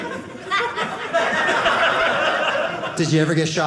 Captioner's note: audience laughing